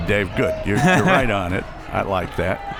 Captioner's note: laughs